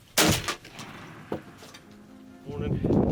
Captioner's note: gunshot fires